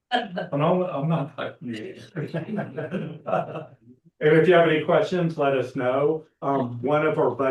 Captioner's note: laughs